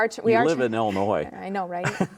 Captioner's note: laughs